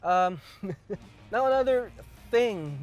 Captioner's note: laughs